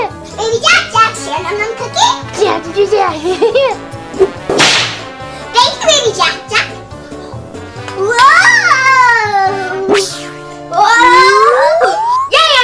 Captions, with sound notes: Baby Jack-Jack, share num num cookie? (Jack-Jack blabbering) Thank you, baby Jack-Jack. Whoa!